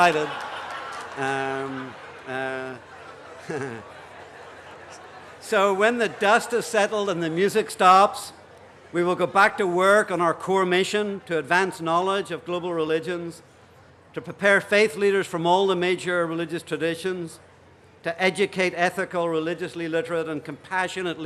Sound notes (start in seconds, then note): 0.0 laughter; 2.3 excited chatter